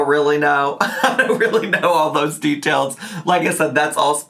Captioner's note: laughs